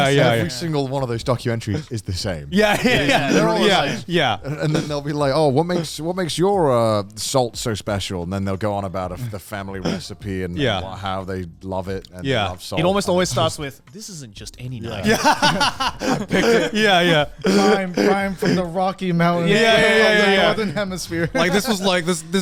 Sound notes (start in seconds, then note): 14.9 laughing